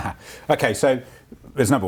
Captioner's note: laughs